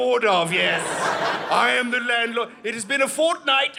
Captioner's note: audience laughing